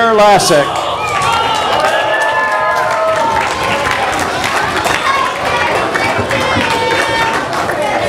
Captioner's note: audience applause